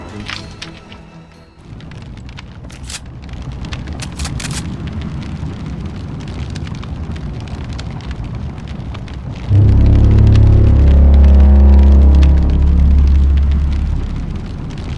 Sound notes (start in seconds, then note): 1.6 flames whooshing; 2.6 gun clicks; 9.4 tense music